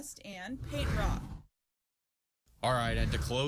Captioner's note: air whooshes